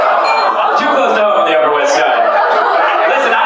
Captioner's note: laughter